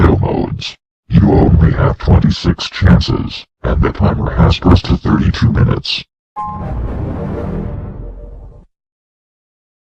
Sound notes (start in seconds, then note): 6.4 3D Shadow Windows XP Shutdown Sound